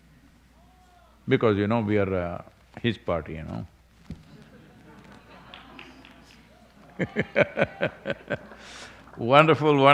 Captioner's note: laughter